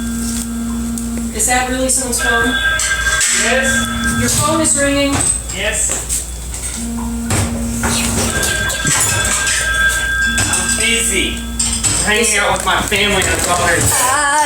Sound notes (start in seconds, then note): 6.9 still ringing; 6.9 whispers